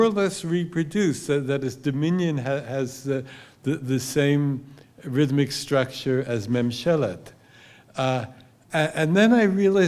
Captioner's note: hebrew